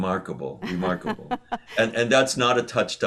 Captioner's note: laughs